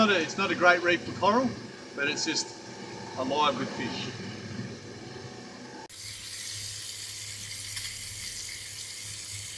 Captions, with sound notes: It's not a great reef for coral, but it's just alive with fish. (fish sizzling)